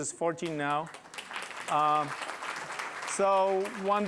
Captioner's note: applause